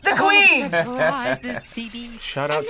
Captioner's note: laughs